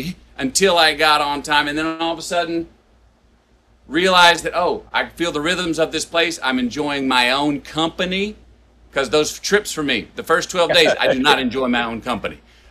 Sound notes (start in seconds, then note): 10.7 Sadhguru laughs